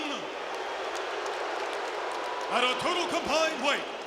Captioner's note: audience cheering and applauding